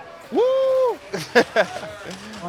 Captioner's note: laughing